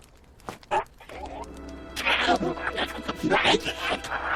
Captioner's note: painful alien hollers